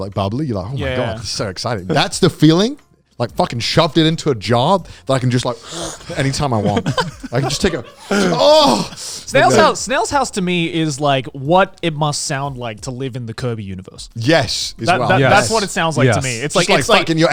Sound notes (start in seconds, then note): 5.9 burping; 7.5 moaning